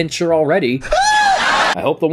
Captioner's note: Wayne Brady shrieks like a girl